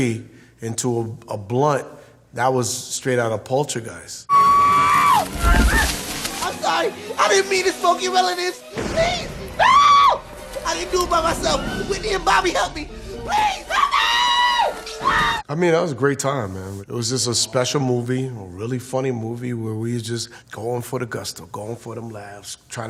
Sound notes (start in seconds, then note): 4.3 high pitched screaming; 9.6 screaming; 13.3 screaming